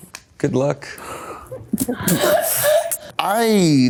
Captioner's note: Maya snickering